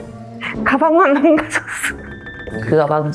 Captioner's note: chuckle